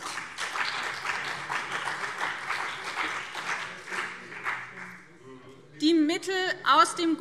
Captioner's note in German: Beifall BÜNDNIS 90/DIE GRÜNEN und CDU